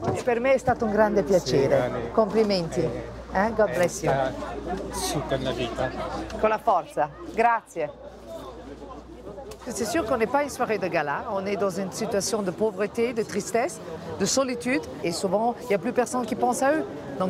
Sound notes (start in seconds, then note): 0.3 speaks in Italian; 3.6 in English; 6.4 in Italian